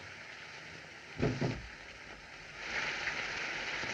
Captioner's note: window Rattles